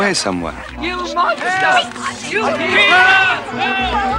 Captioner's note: all shouting